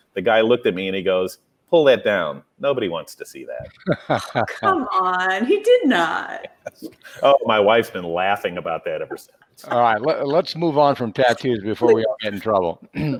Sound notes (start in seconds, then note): 3.6 laughs; 11.8 laughs